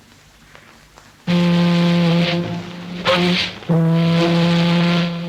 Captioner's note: boat horn blowing